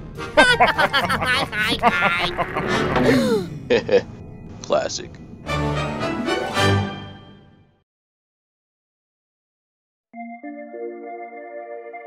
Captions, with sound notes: (GUFFAW) (GASP!) Heheh... classic.